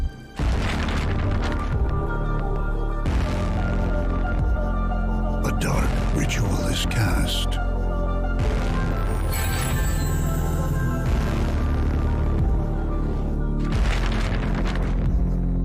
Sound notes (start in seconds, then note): 0.5 page fluttering; 8.8 rattling of chains; 13.6 page fluttering